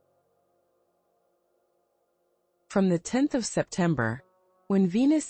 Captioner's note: pause